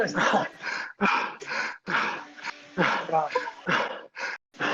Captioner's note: breathing